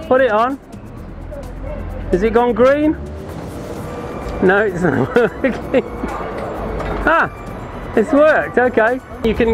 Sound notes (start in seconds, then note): 4.6 chuckles